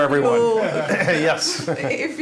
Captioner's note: laughter